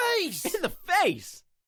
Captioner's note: laugh